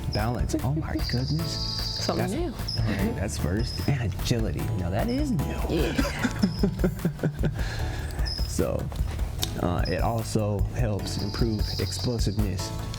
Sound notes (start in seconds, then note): 5.8 laughs